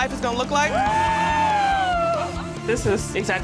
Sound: cheers

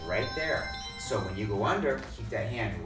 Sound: bells

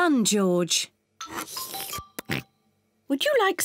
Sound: slurps

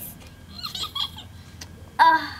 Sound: giggling

